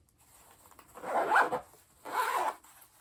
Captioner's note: zipper sound